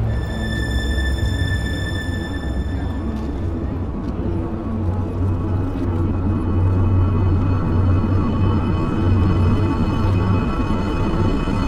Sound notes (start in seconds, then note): 6.0 deep, grinding noise